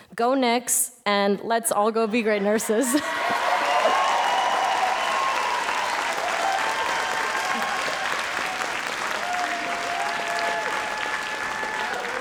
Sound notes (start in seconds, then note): 3.5 audience applauds